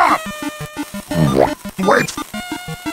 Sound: cartoon sound effect plays

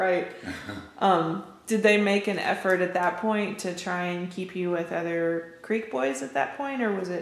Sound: laughter

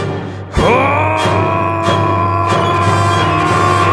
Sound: telepa-bear screams

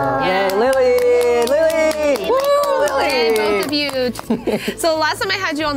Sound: all clap and cheer

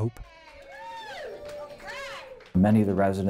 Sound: clapping and cheering

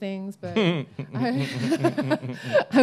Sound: chuckling

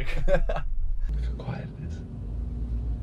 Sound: laughing

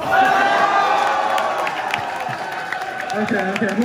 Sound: crowd cheers

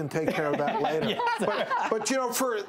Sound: laughs

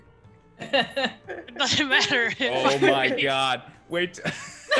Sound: laugh

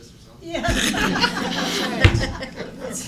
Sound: laughing

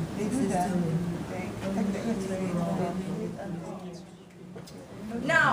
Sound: indistinct conversation

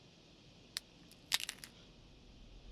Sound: twig snap

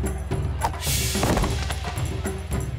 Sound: thudding

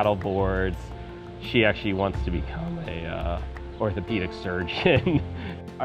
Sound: chuckles

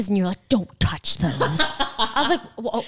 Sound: laughs

